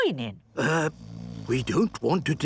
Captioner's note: people snoring